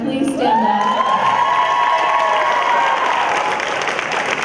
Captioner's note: cheering